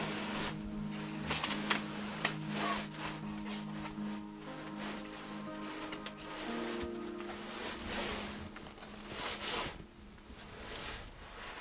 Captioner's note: pages ruffling